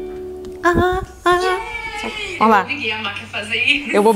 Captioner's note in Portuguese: cantarolando